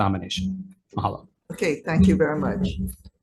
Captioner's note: talking in a foreign language